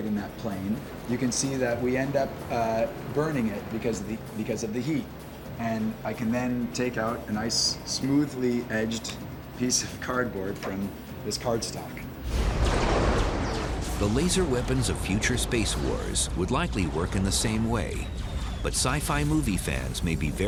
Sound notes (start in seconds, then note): 12.4 laser weapon sound